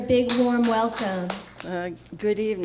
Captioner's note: applause